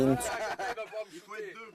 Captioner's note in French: ils rient